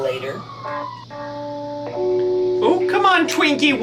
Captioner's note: fire engine horn